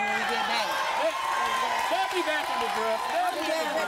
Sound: cheers

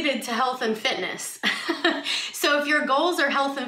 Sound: chuckles

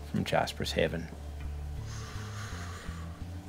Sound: none

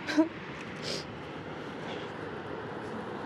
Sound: sobbing

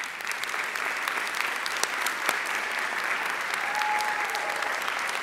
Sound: audience applauding

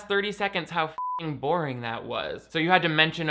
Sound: beep

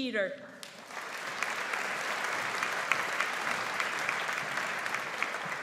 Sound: audience applauds

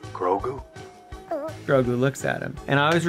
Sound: coos

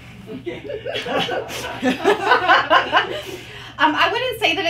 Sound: participants laughing

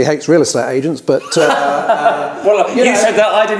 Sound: laughs

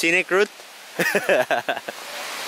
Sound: laughing

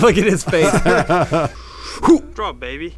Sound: laughing

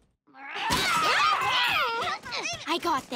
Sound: yelling

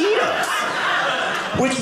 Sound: audience laughing

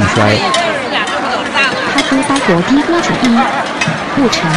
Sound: Mandarin

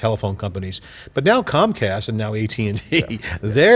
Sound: laugh

